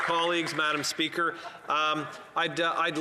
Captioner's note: some Applause